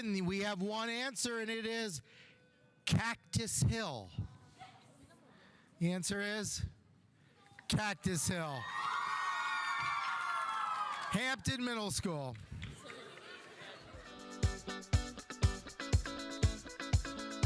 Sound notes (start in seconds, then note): 8.4 audience cheering; 8.7 audience applauding; 14.1 uptempo music